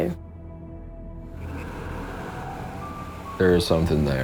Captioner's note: distant ghostly chuckling